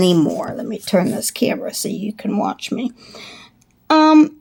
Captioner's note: inhale